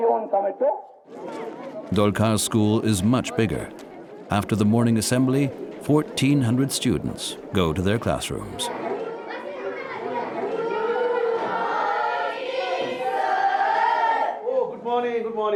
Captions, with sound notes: Dokar's school is much bigger. After the morning assembly 1,400 students go to their classrooms. (chatter) (speaking foreign language)